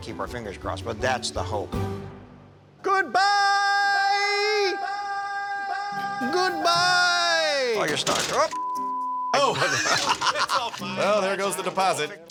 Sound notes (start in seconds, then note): 2.7 echoing; 9.4 laughs